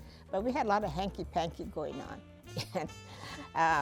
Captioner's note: laughs